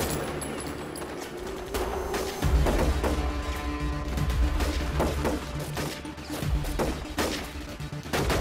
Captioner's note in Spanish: Disparos